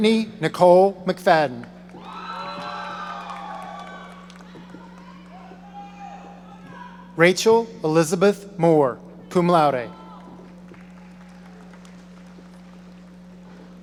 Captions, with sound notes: Brittany Nicole McFadden. (audience cheering) (audience members shouting) Rachel Elizabeth Moore, cum laude. (audience applauding)